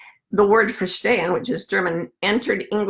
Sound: foreign language

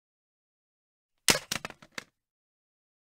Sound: sound of remote control drop

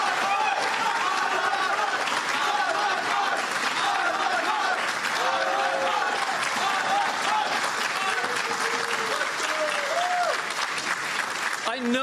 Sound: applause

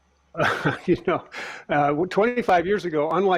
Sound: laughing

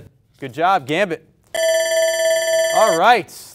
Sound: timer rings

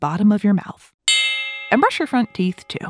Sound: switch bell

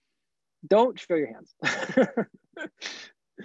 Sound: laughs

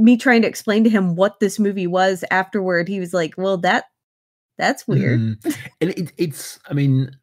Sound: laughs

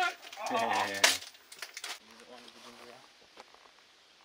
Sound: laughs

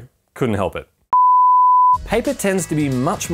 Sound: beeping

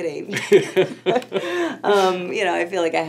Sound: laughing

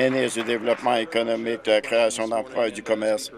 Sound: applause

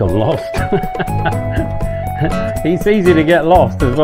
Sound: laughs

